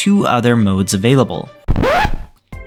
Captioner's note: record scratch